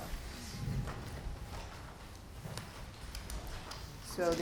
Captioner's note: papers rustling